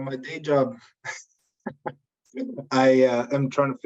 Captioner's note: laughs